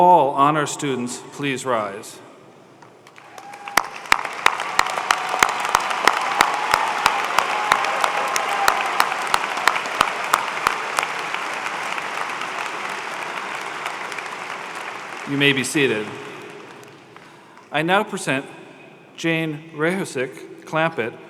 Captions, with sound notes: FOR THOSE GRADUATING SUMMA CUM LAUDE, MAGNA CUM LAUDE, AND CUM LAUDE, PLEASE RISE.[ APPLAUSE ] YOU HAVE OUR WARMEST CONGRATULATIONS ON YOUR